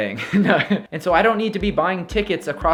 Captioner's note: chuckles